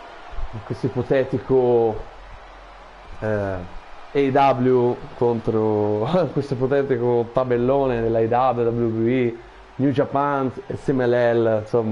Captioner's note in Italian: Applauso